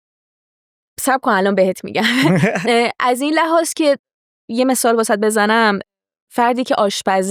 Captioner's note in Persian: خنده